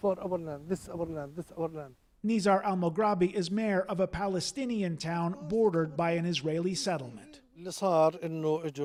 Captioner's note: speaking alternate language